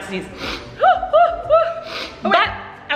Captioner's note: sniffling and shouting